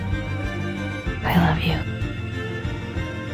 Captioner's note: voiceover